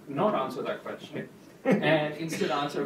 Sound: laughs

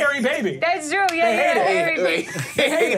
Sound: laughs

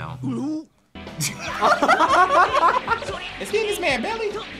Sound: both laugh

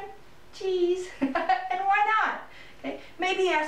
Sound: laughing

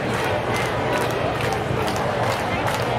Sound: clapping

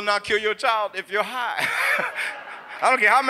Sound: laughs; audience laughs

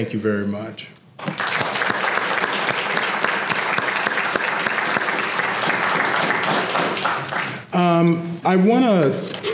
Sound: applause

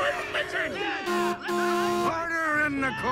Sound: everyone cheers; Doc honks

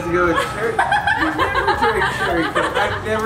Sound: laughing

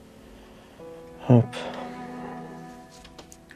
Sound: none

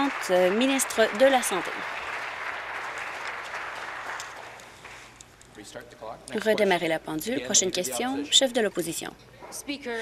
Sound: applause

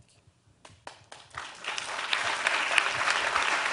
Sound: applause

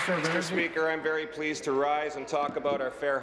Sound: applause

